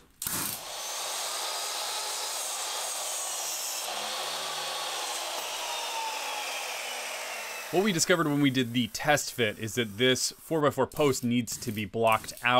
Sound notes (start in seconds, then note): 0.2 miter saw cutting 4x4